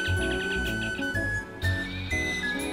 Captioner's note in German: Vogelgezwitscher; Piepsen